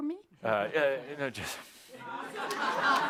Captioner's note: laughter